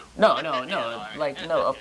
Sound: laughing

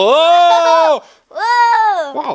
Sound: laughs

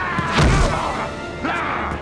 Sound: groaning

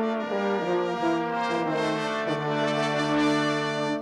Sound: none

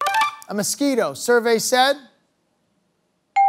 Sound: buzzer sounds

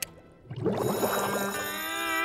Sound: bell ringing

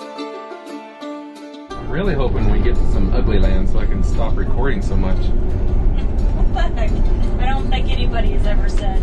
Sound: laugh

